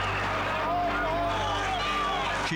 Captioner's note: firefighters shouting